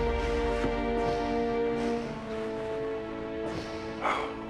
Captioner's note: breathing heavily